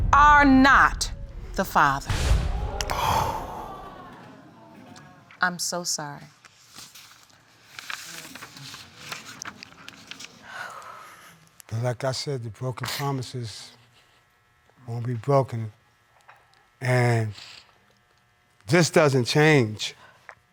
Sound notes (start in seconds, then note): 2.5 audience gasp